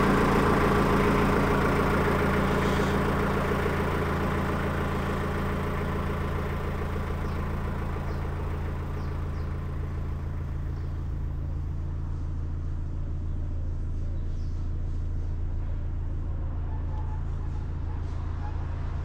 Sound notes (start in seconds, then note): 9.4 boat engine roaring